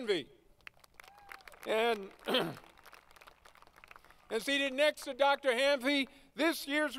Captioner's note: applause